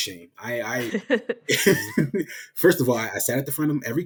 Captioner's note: laughing